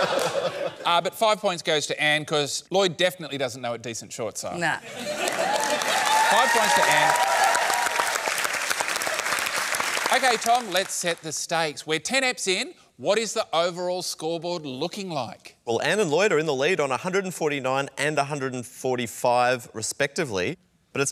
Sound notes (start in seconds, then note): 7.3 cheering and applause